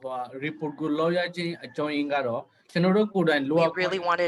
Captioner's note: speaking burmese